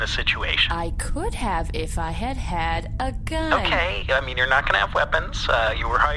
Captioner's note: sassy